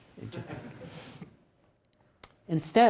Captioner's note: attendees laughs